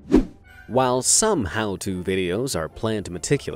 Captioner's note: whooshing